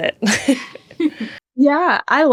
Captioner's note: laugh